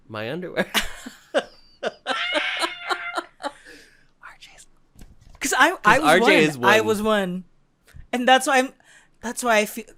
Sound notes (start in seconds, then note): 1.3 chuckles; 2.1 screams